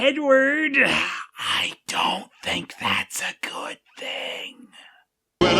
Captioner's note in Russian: шёпотом